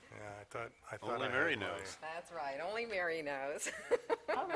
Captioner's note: laughter